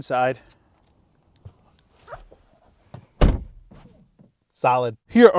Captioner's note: door opening and closing